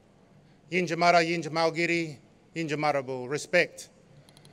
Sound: non-english speech

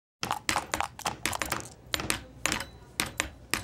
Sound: <i>hammering</i>

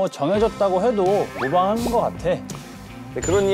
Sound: confident

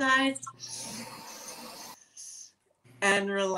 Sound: inhaling sound

